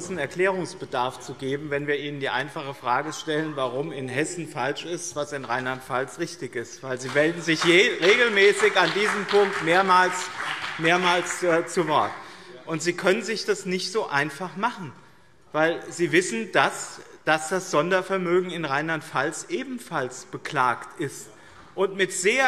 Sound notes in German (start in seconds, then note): 12.2 Beifall BÜNDNIS 90/DIE GRÜNEN